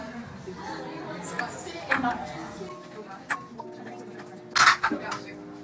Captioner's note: background chattering